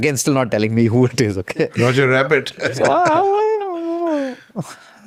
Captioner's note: laughs